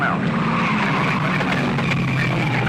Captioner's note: tires skidding